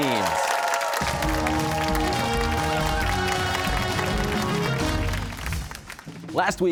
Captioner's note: cheers and applause